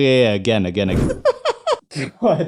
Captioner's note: laughs